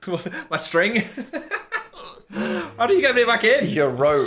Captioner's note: laughs